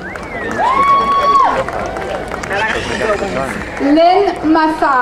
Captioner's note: crowd cheering